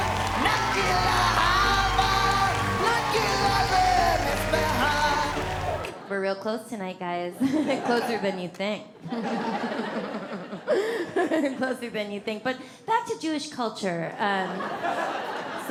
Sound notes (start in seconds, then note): 7.4 laughs; 9.0 audience laughs; 9.1 laughs; 14.5 audience laughs